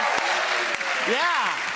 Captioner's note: applause